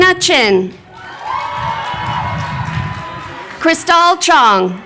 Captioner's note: crowd cheering